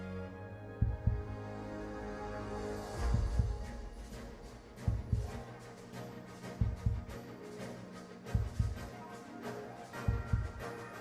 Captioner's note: heartbeat